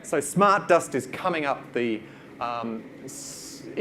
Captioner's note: none